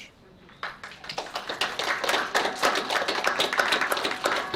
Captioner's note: applause